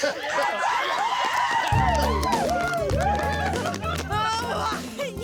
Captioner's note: cheering, applause; laughing